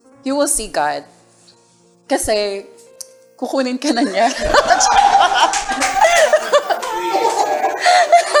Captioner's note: laughter